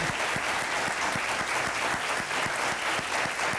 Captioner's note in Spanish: aplausos